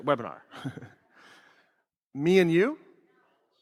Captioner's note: laughs